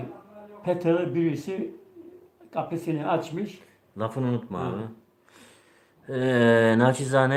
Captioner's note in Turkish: homurdanır